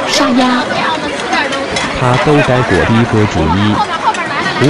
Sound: Mandarin

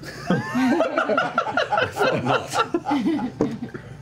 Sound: laughter

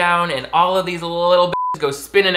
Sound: beeps

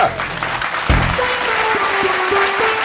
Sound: applause

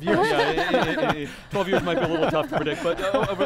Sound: laughter; laughs

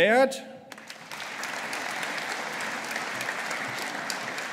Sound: audience applauding

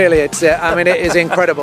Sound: chuckles

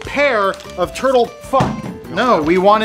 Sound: thud

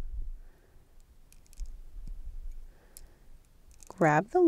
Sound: pliers creaking

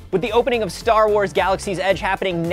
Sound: whoosh

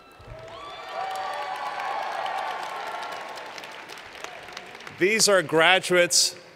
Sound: cheers and Applause

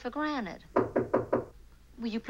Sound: knocking

